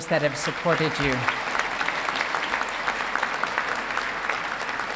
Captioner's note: audience applauding